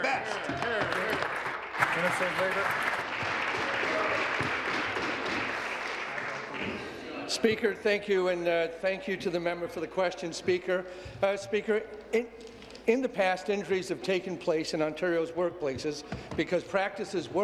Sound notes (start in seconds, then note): 7.3 some Applause